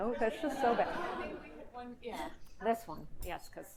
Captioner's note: audience laughing